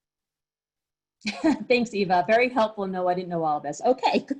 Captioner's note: laughs